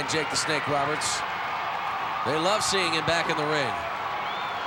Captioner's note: applause